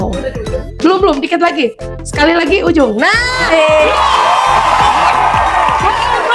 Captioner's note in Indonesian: berteriak